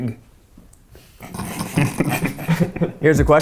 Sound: laughs

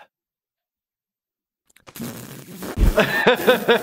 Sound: other characters controlling laughter; laughs

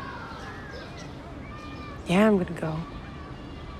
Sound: none

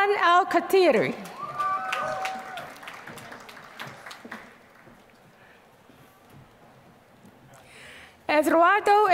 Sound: applause

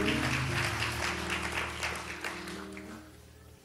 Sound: applause

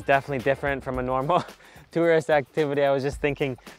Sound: chuckles

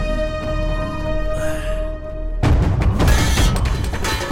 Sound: sighs

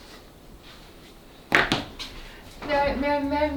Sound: SFX: Clack

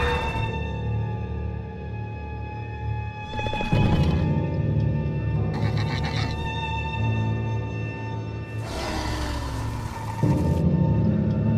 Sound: Scorpius Rex growls

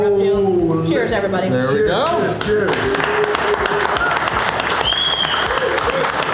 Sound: clapping

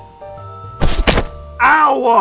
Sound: hands smacking

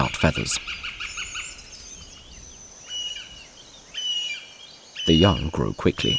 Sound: sounds of nature

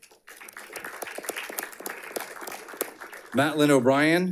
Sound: audience applauding

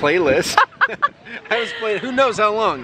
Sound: laughing

